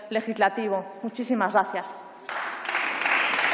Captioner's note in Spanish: Aplausos